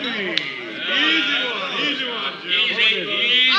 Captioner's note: crowd murmuring